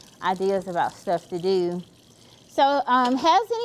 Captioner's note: water trickling continues